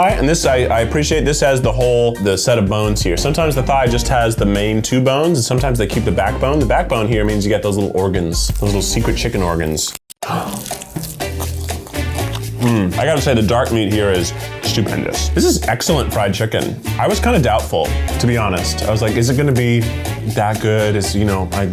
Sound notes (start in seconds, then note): 10.3 gasps; 10.3 upbeat music